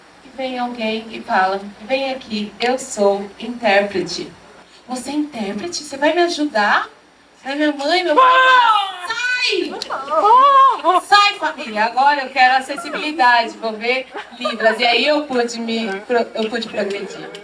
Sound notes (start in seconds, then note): 9.3 boy shouts